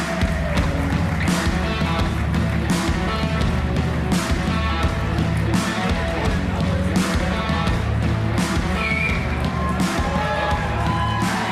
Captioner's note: applause